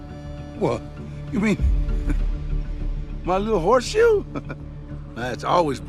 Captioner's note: chuckles